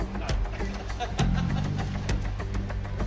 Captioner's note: laughs